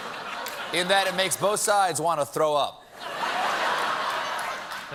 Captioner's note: laughter